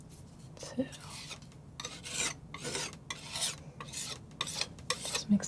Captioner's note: scratching